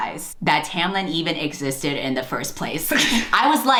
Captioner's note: laughs